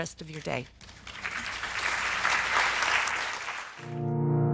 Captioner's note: audience applauds; piano music